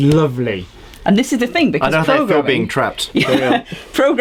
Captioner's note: laughs